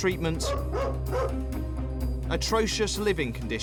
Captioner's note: dog barking